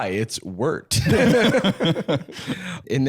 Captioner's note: all chuckling